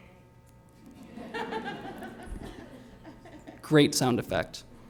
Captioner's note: laughter